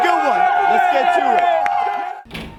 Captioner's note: fans Cheering